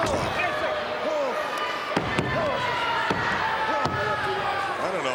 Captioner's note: crowd murmuring